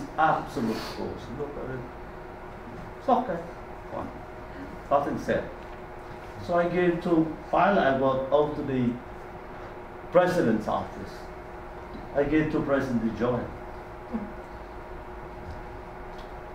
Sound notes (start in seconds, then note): none